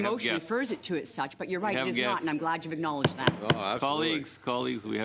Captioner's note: stricks The Gavel